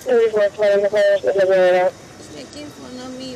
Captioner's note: radio chatter